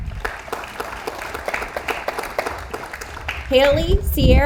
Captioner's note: audience applauds